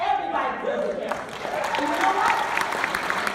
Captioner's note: clapping